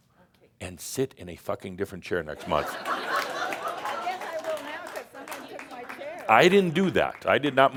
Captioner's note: laughter and some applause